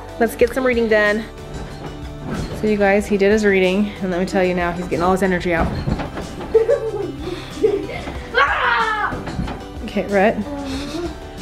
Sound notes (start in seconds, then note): 6.5 laughing; 8.3 squeals